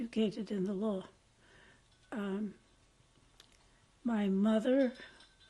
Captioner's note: pauses for 3 seconds